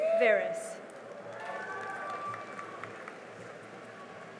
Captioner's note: cheering and applause